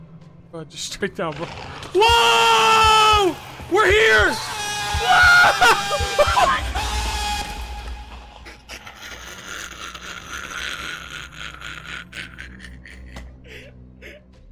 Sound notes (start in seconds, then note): 3.6 screams; 7.8 laughs